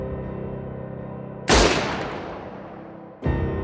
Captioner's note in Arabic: صوت البندقية